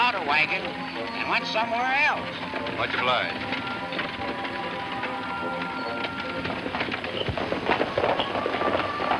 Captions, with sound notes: and went somewhere else. - Much obliged. (hooves clopping)